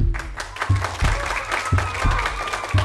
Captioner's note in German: Applaus